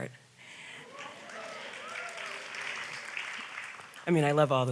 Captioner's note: audience applauds